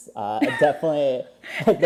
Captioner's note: laughs